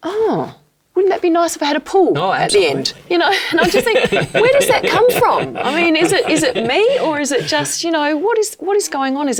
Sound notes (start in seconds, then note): 2.1 laughing; 2.2 Noel and Richard laughing